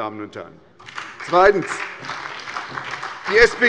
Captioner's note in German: Beifall bei der SPD